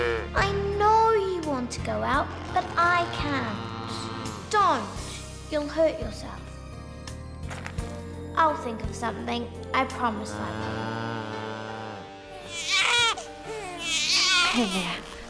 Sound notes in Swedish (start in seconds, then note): 12.3 barn som gråter